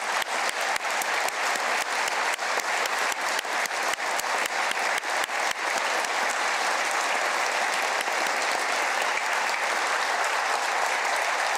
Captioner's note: applause